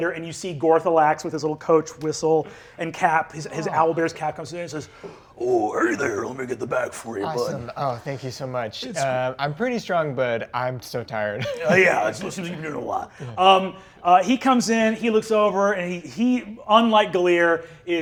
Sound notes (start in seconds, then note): 11.4 laughs